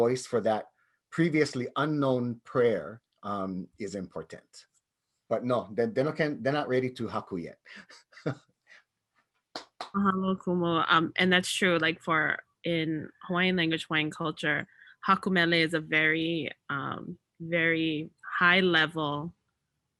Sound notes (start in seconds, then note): 7.7 chuckles; 9.9 faintly speaking